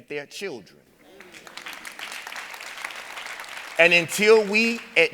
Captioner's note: audience applauding